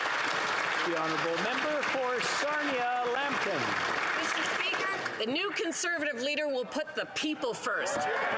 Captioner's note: applause